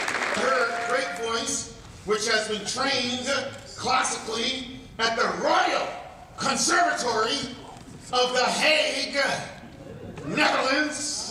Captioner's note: applause